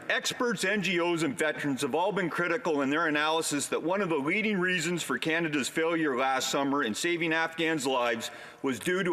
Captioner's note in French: voix de l'interprète